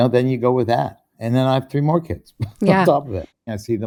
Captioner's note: chuckles